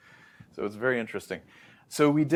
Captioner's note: inhales